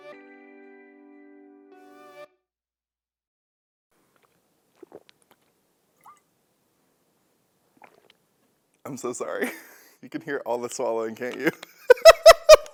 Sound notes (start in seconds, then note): 5.9 swallowing sounds